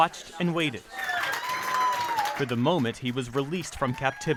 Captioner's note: cheering